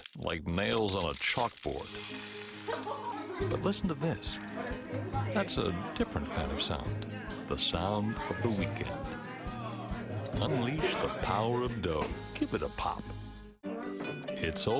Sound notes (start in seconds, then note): 4.8 family talking